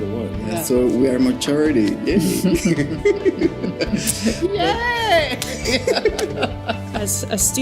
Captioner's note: they laugh and high-five